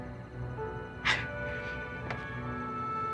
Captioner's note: menghela nafas